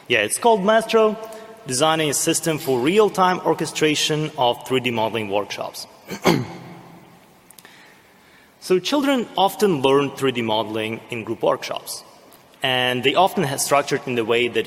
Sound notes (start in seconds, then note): 6.0 clears throat